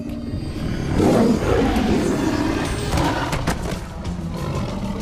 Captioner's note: tiger growling